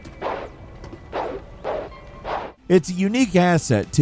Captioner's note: punches landing